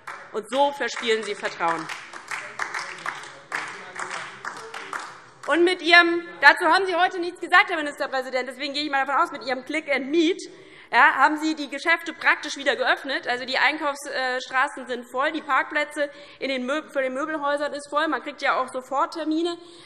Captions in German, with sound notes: So verspielen Sie das Vertrauen in die Politik. [Beifall DIE LINKE, vereinzelt SPD und Freie Demokraten] Herr Ministerpräsident, Sie haben heute dazu nichts gesagt, deshalb gehe ich davon aus, dass Sie mit Ihrem „Click & Meet“ die Geschäfte praktisch wieder geöffnet haben. Die Einkaufsstraßen sind voll, die Parkplätze vor den Möbelhäusern sind voll, man bekommt sofort Termine.